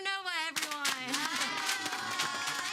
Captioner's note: all clapping